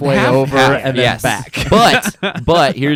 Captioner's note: laughs